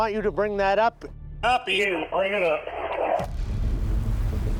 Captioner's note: speaking over radio